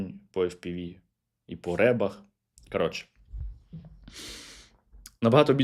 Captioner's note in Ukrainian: сопіння